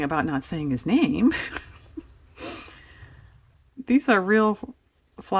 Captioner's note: laughs